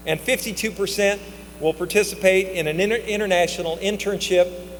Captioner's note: none